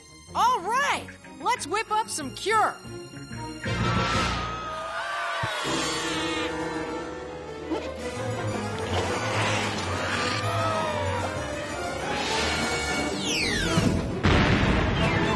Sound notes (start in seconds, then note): 5.4 cries of dismay